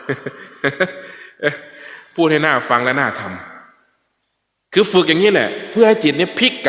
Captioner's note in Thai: เสียงหัวเราะ